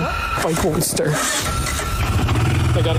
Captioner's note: motor starting